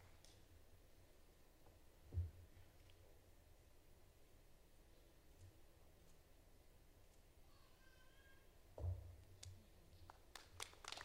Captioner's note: applause